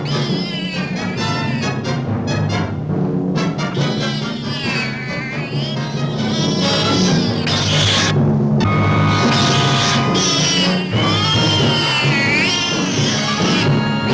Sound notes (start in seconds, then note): 0.0 cat yowling; 3.7 cat yowling